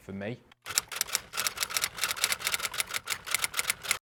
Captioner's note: keyboard clicks